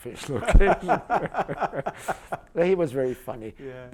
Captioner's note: laughter